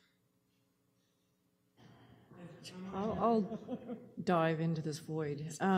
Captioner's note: laughter